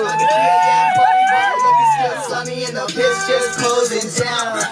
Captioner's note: cheering; rap music continues